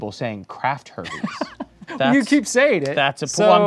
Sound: laughs

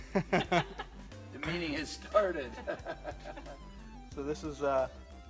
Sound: both laughing; laughs

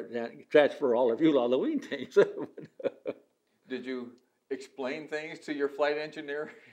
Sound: laughs

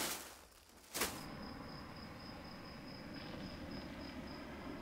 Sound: crickets chirping

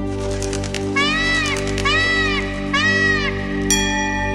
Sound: peacock squawks

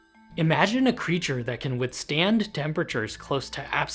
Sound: none

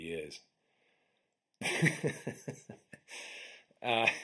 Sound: laughing

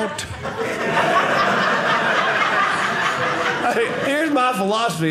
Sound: audience laughing

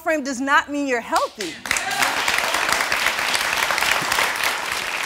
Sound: audience applauds and cheers

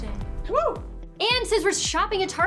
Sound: cheering

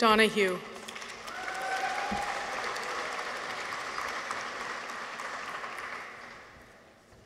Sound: audience applauds; people cheer

